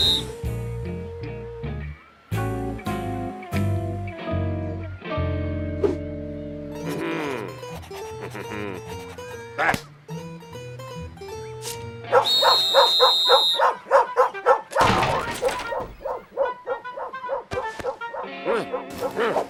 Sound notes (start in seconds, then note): 12.1 whistle blows, dog barking